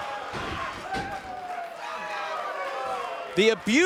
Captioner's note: fans cheering